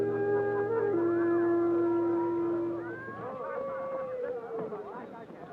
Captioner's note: crowd chattering happily